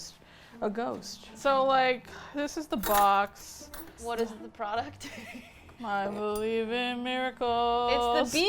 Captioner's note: singing in monotone; laughs